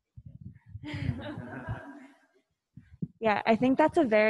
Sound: laughing

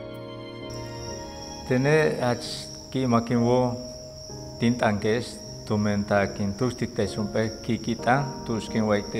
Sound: speaking Yucatec Maya

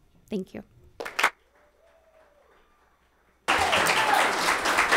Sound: audience applauds

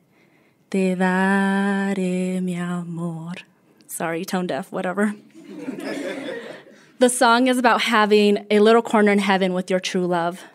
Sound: laughter

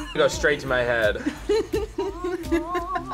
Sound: laughs

